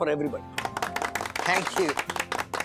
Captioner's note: applauding